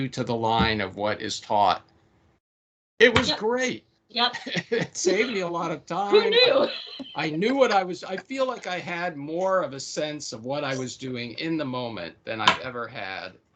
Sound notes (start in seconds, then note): 4.3 laughing